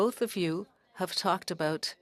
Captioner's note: speaking French